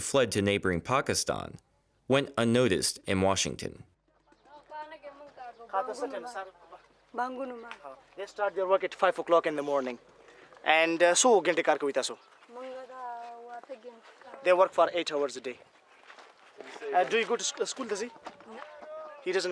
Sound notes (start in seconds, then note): 5.6 speaking in foreign language; 10.9 speaks in foreign language